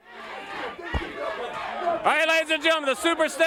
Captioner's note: crowd noise